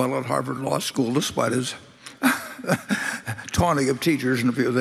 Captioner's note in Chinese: Laughter; 笑聲